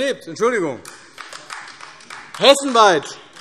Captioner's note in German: Beifall AfD